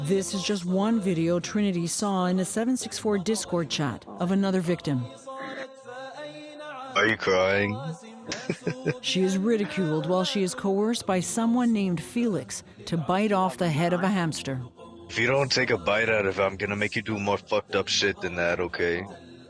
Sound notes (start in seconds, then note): 7.0 sobs; 8.2 laughs